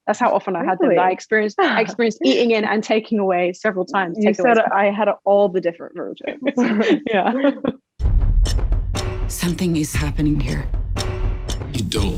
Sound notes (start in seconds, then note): 6.3 laughs; 8.0 tense music